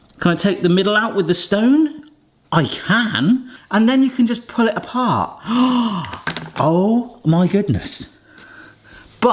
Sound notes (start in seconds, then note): 5.4 gasps